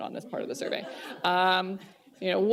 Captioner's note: laughter